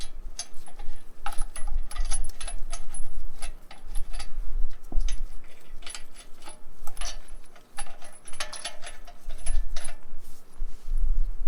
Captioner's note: lug nut tightening sounds